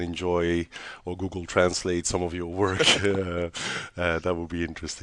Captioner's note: laughs